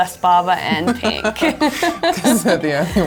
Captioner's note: both laugh